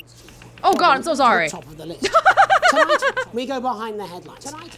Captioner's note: chuckles